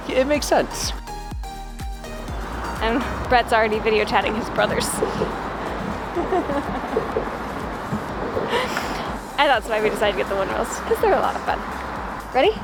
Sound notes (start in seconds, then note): 6.0 giggles quickly